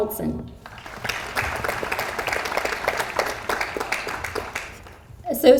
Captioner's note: audience applauds